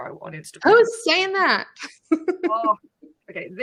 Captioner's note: laughs